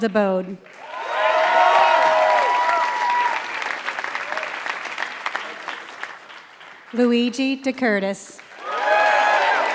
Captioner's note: applause